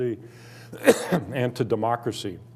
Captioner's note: coughing